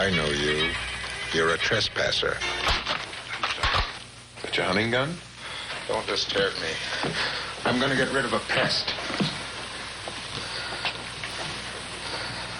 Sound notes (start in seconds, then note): 3.5 cocks gun